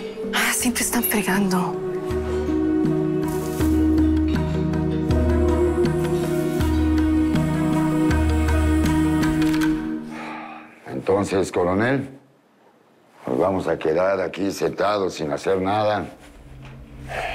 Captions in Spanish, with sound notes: - Ahora sí te están fregando. [Lisandro exhala] - ¿Entonces, coronel? ¿Nos vamos a quedar aquí sentados sin hacer nada?